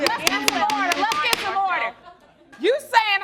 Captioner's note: banging gavel; both yelling over each other